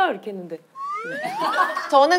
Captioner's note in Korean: 스윽